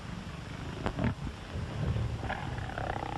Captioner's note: snarling